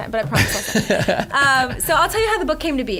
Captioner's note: laughing